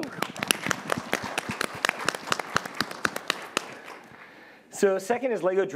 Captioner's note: applause